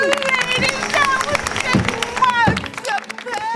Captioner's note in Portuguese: Aplausos